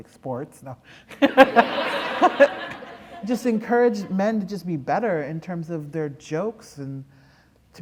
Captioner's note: laughter